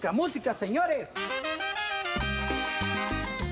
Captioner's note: speaks Spanish